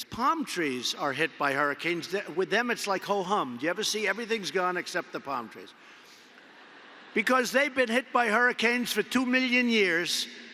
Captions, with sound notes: Palm trees are hit by hurricanes. With them, it’s like ho-hum. You ever see, everything is gone except the palm trees. (Laughter.) Because they’ve been hit by hurricanes for 2 million years,